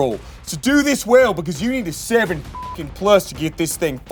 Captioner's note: beep